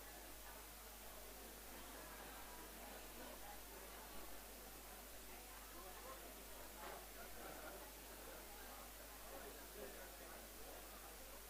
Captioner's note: background chatter